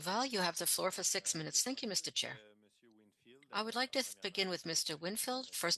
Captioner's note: speaking French